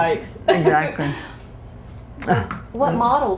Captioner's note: laughter